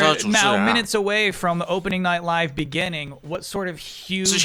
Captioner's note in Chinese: 泣不成声